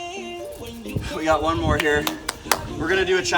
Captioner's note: claps